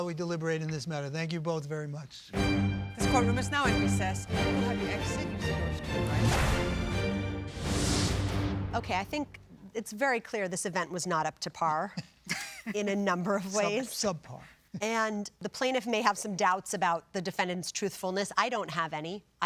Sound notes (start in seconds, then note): 12.0 chuckles